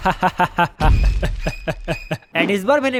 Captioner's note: evil laugh